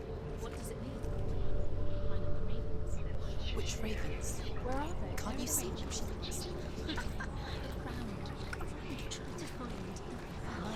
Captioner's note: laughs